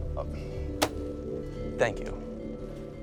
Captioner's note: hand thwacking on counter